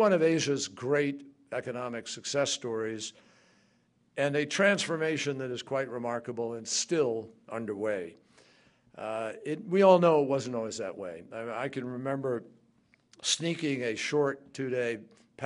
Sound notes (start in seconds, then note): none